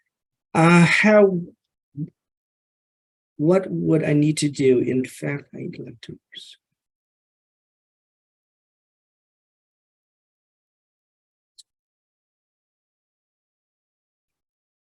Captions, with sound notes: What would I need to do? In fact... (faintly speaking)